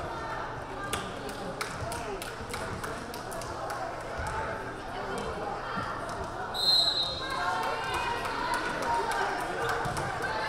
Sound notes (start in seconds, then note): 6.6 whistle blaring